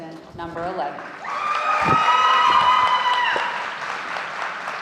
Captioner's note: audience cheering